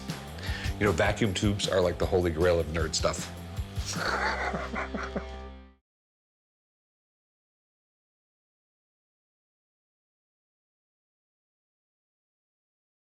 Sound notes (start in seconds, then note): 3.8 laughs